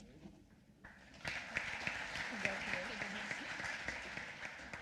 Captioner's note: applause